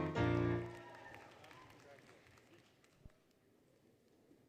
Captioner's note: applause, Cheering, Music; applause, Cheering